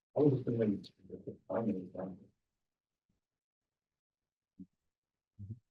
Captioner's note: presenter speaking faintly off mic